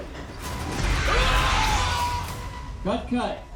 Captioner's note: screams